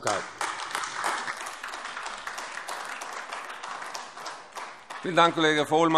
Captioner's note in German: Beifall AfD